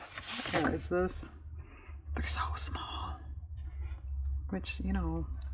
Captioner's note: whispers